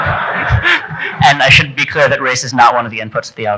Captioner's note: chuckles; audience laughing